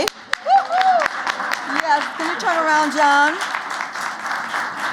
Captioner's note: applause